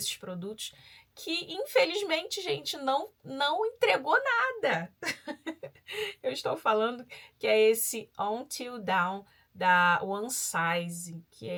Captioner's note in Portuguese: risadas